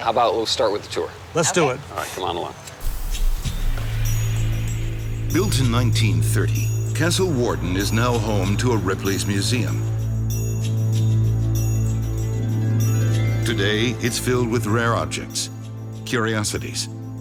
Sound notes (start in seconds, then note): 5.3 voiceover